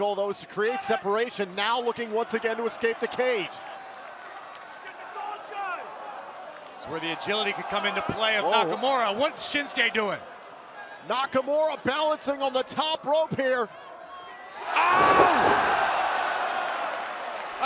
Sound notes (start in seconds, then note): 5.1 crowd cheering; 15.4 crowd cheering